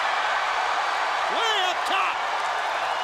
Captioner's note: crowd cheering